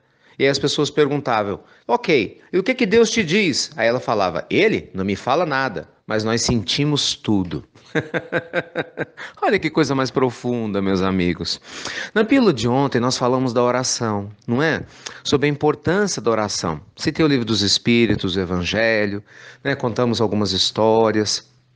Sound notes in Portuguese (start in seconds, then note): 7.8 risos